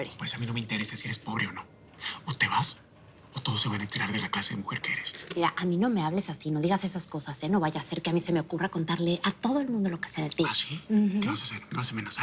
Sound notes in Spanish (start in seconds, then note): none